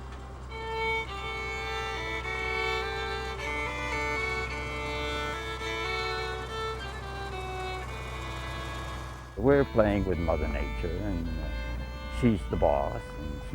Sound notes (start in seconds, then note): 0.4 fiddle music continues; 5.0 tractor engine rumbling